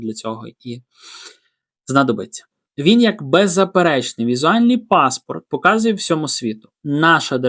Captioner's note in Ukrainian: сопіння